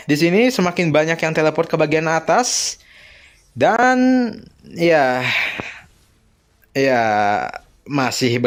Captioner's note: sighs